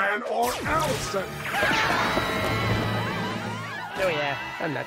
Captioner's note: panicked screaming